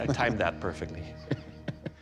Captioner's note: chuckling